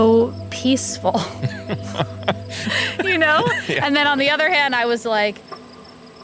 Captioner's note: laughs